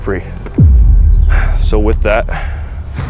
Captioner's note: sighs